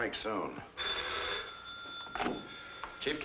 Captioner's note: phone rings